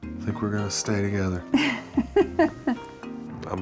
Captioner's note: chuckles